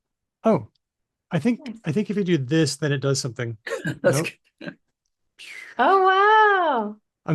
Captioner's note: laughs